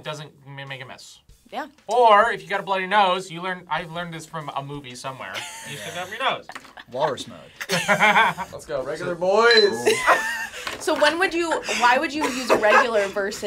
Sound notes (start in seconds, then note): 7.6 laughs; 10.5 laughs